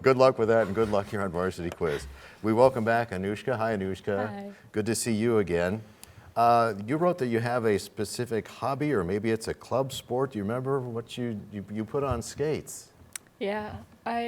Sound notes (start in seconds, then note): none